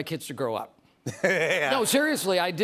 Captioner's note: laughter